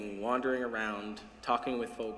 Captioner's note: none